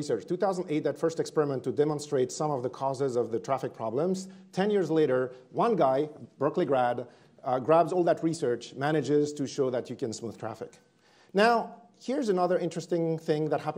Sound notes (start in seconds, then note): none